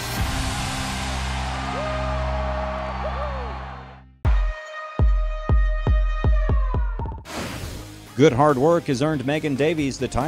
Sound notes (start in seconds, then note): 0.1 crowd cheering; 0.3 upbeat rock music; 4.2 upbeat music; 7.6 air whooshing